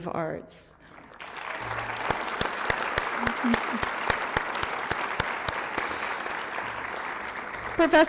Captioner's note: applause